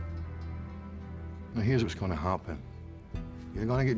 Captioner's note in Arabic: لهجة اسكتلندية